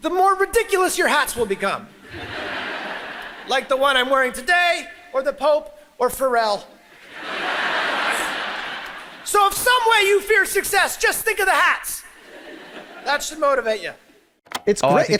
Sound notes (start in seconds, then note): 6.9 audience laughs